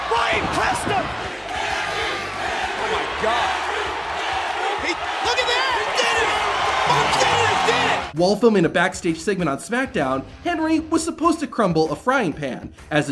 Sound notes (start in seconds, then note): 4.3 crowd